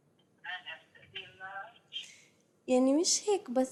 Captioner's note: non-english speech